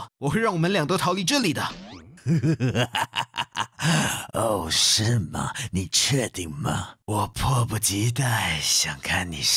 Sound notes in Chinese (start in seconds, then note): 2.2 狂笑